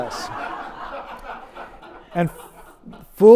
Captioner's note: audience laughs